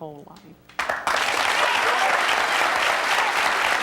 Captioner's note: clapping